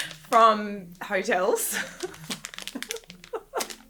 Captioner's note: laughing